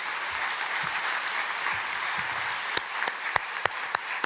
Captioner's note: applause